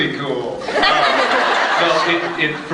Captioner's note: laughs